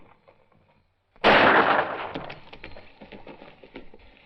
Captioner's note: gunshot